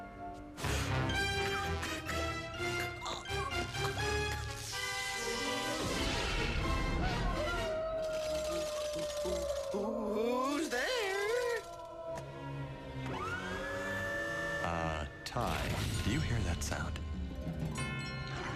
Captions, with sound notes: [ WIREWOLF HOWLS ] W-WHO'S THERE? [ WHIRRING ] UH, TY, DO YOU HERE THAT SOUND?